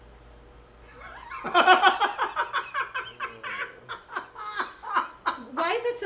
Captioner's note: laughing